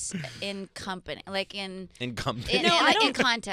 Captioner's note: laughs